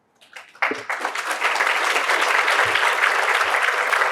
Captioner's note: applause